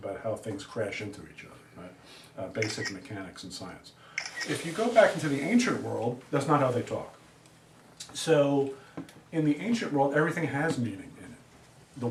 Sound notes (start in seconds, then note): 2.6 camera shutters